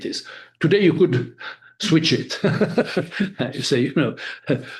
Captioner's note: laughing